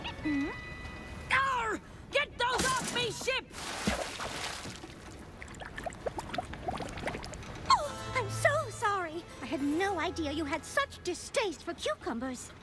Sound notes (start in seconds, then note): 5.0 splash; 6.9 water bubbling